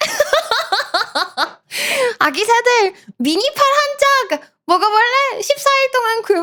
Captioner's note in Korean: 웃음